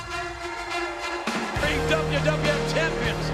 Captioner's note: audience cheers; ceremonious music